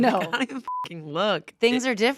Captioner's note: beep